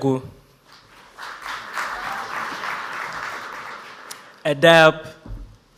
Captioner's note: audience applauds